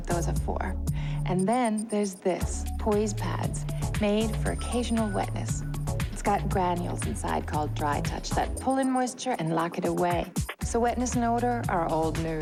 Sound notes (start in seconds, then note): none